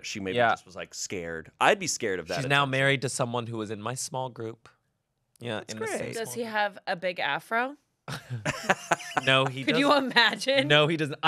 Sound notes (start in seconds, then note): 8.1 laughs